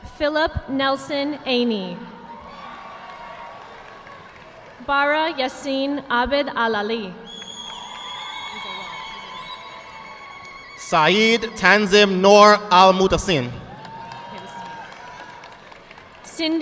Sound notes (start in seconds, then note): 2.3 audience cheering and applauding; 7.2 audience member whistles